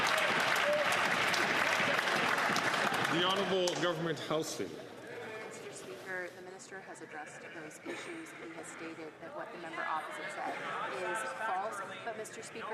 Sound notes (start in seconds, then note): 3.5 some Applause